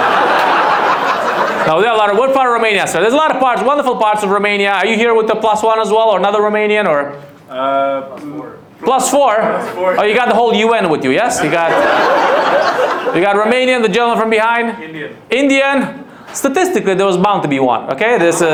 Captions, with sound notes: No, we got a lot of, what part of Romania, sir? There's a lot of parts. Wonderful parts of Romania. Are you here with the plus one as well, or another Romanian, or. - Uh. - Plus four. - Plus four? - Plus four. - Oh, you got the whole UN with you, yes? You got, (audience laughs) you got Romanian, and the gentleman from behind? - Indian. - Indian! Statistically there was bound to be one, okay? This is.